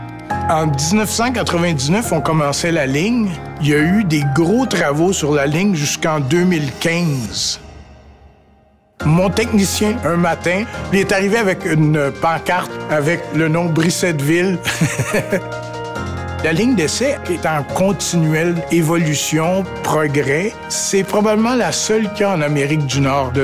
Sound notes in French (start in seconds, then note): 14.6 rire